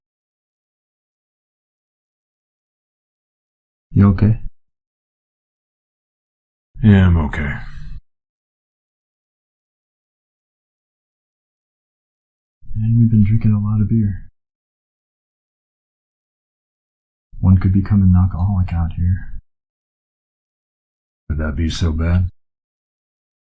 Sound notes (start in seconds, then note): 0.2 silence; 8.4 long silence